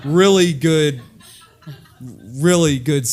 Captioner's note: laugh